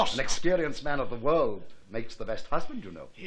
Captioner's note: none